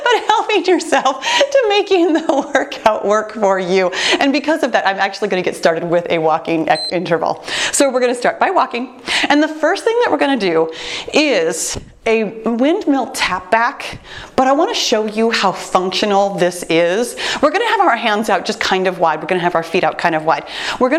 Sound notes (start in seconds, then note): 6.7 timer beeps